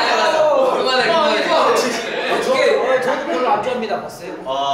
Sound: is laughing at changing attitude

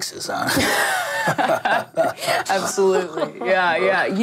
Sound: laughs

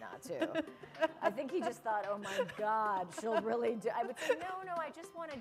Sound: chuckle

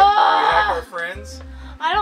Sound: grunts loudly

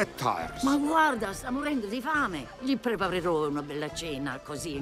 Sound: speaking foreign language

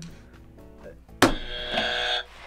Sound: buzzer rings

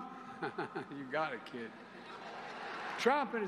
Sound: laughter

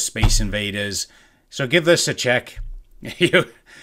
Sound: laughs

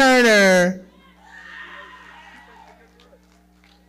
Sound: audience cheering

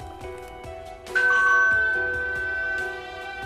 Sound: doorbell ringing

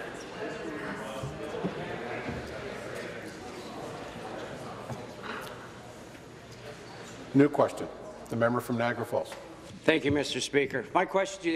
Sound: conversation din

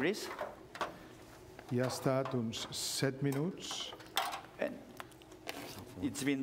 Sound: speaking catalan

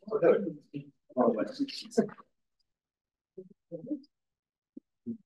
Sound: audio distorting

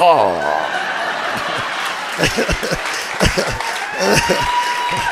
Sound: audience laughing and applauding

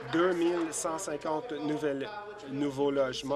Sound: applause

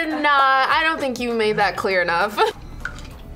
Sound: laughs

